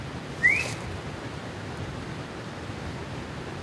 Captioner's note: whistles